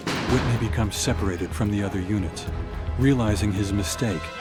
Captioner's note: voiceover